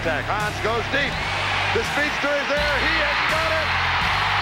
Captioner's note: crowd cheering